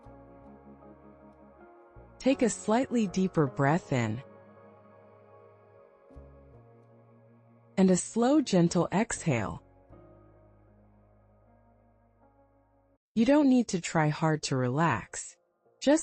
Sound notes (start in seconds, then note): 0.2 pause